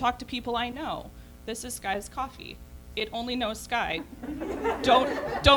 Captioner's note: laughter